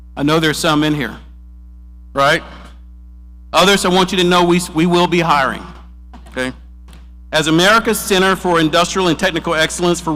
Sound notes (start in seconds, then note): none